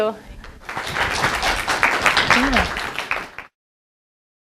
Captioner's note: applause